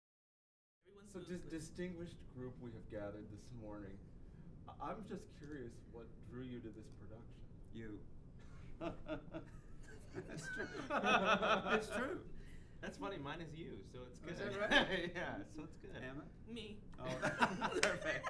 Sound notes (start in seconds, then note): 9.8 laughs